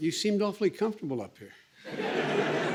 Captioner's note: laughter and applause